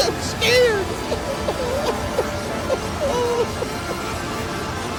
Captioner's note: crying